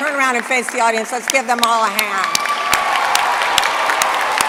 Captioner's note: applause